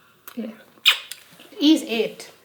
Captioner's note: lips smacking